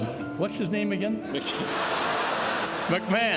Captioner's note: crowd laughing